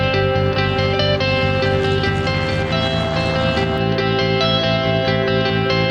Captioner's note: airplane engines buzz